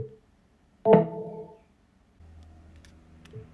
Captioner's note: indicator sounds